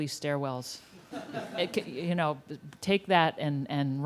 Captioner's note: laughter